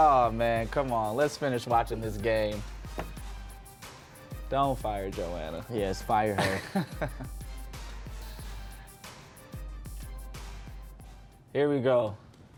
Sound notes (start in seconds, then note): 6.2 laughing; 7.0 low tense music